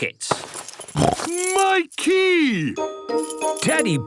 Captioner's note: snorts